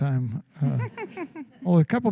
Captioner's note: laughter